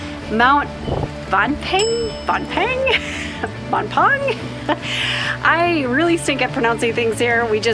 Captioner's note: mispronounces it